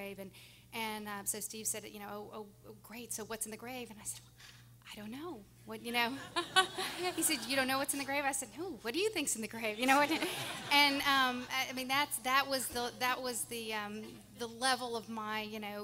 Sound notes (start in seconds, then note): 6.3 everyone laughing; 9.9 everyone laughing